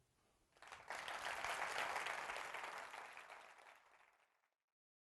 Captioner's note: applause